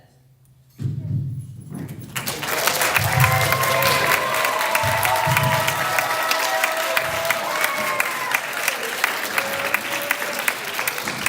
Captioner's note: applause